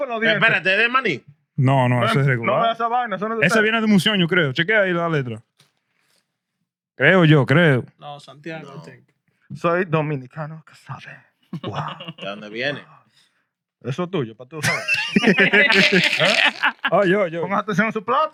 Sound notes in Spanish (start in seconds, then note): 4.1 Hablando en idioma extranjero; 10.1 Hablando en idioma extranjero; 10.1 Riendo; 16.9 Hablando en idioma extranjero